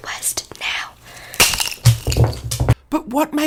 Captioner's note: shoe snaps